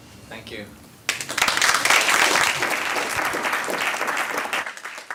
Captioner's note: applause